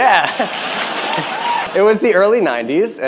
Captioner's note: cheering and applause